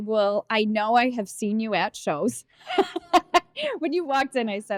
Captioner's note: laughing